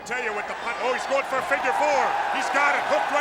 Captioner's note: crowd cheering